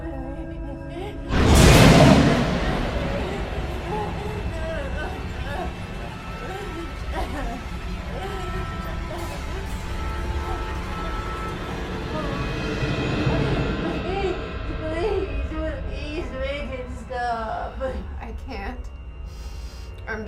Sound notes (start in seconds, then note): 2.1 dramatic music; 6.2 dramatic music; 6.2 sobbing